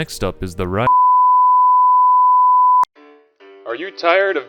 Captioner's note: tone; in Old-timey Voice